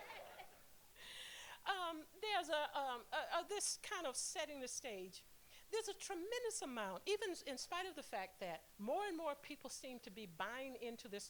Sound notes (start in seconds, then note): 0.0 laughter